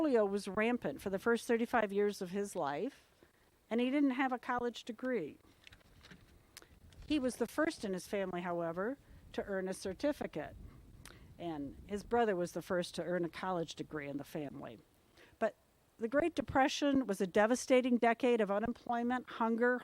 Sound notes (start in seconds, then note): none